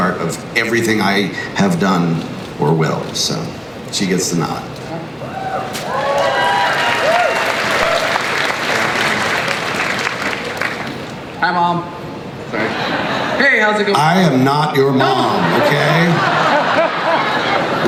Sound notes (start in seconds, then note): 5.2 crowd cheers and applauds; 11.5 voiceover; 15.0 crowd laughs